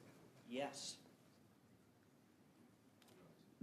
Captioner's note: speaking French